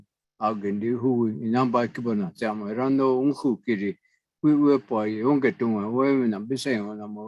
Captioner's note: native language spoken